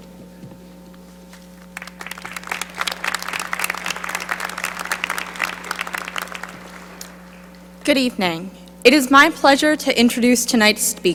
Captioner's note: applause